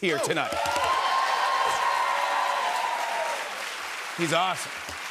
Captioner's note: cheers and applause